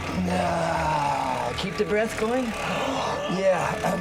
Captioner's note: exhales; whirring; exhales; exclaims